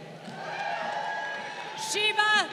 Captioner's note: crowd cheering